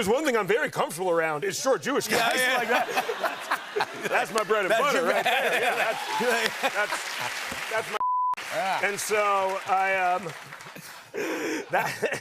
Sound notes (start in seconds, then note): 5.2 cheers and applause